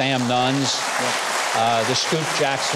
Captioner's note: applause